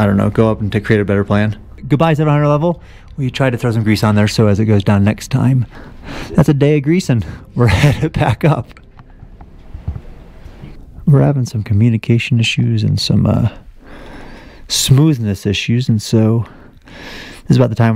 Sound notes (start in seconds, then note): 7.6 chuckling